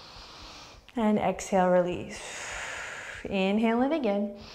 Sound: deep breath; deep breath

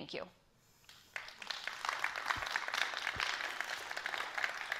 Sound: applause

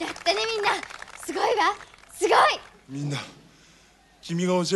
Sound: applause

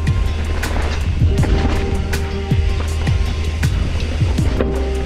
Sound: mellow synth music continues; gravel crunches softly; mellow synth music continues

